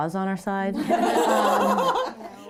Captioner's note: laughter